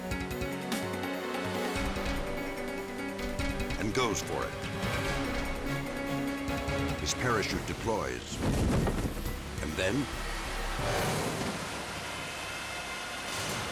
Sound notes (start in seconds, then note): 0.2 dramatic music; 7.3 parachute rumbles; 10.4 dramatic music